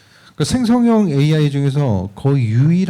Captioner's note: speaking korean